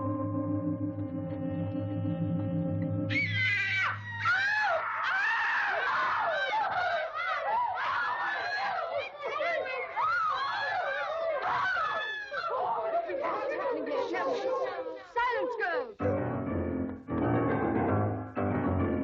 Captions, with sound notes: (girls screaming) - Silence, girls! (dramatic music)